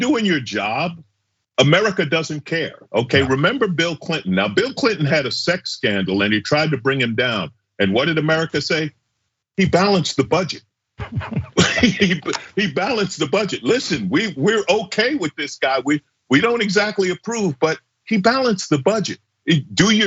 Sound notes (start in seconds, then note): 11.0 laugh